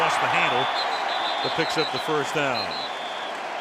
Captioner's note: whistle